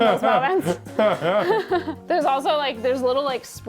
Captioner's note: both laughing